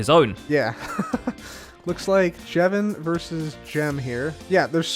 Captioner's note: chuckles